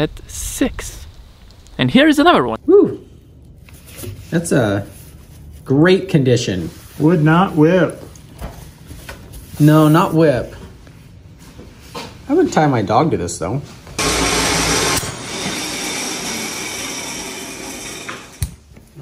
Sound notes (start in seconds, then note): 14.0 machine whirs